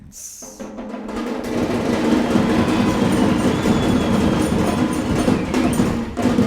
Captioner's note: celebration happening